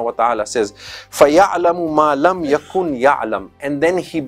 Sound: Arabic

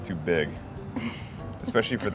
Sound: laughs

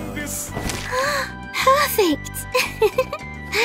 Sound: gasp; laughing

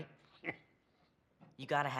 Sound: laugh

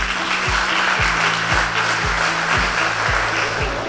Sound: audience applaud

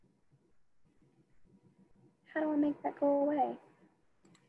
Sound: none

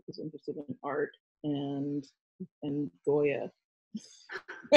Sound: laughs

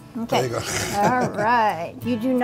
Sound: chuckles

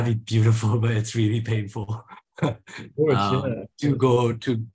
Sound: he chuckles

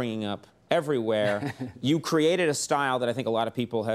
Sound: guest laughs

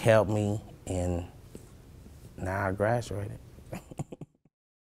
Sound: laughing

